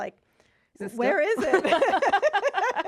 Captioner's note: laughing